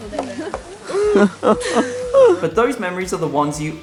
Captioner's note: laughing